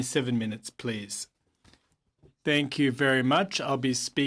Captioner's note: speaking french